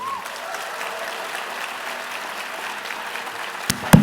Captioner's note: cheering